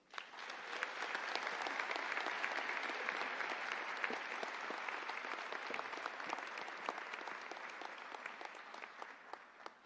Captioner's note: applause